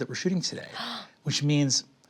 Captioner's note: gasps